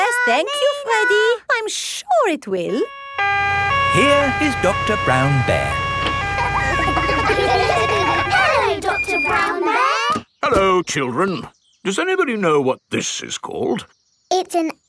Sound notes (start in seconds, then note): 2.8 siren wailing; 6.8 kids laughing